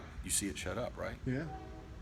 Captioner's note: train horn